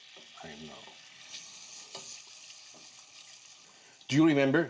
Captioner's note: liquid bubbling